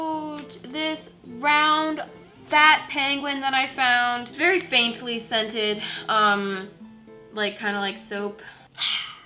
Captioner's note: sniff sniff